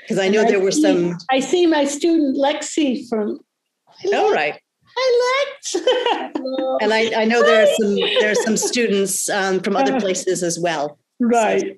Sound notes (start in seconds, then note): 5.7 laughing